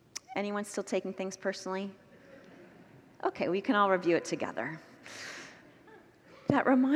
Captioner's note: congregants laugh